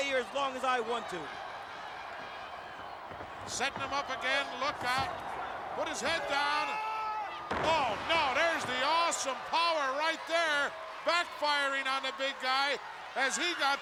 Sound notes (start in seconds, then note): 6.3 Bam Bam screams